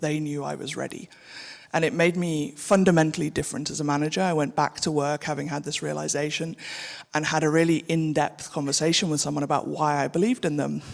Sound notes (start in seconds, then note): none